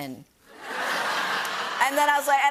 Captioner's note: laughter